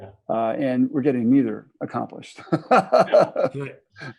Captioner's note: laughs